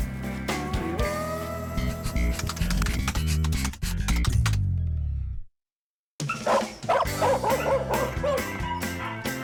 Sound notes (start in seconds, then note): 6.3 barking